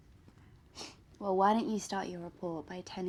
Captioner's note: sniffs